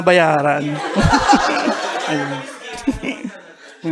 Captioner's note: laughter